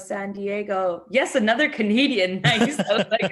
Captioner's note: laughs